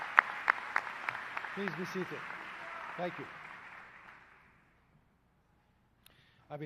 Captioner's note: applause